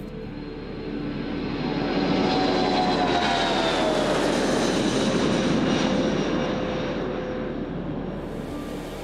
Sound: airplane taking off

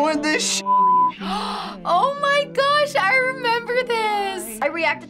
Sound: gasps

